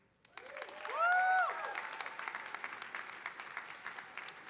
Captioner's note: audience applauding